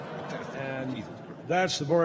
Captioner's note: laughter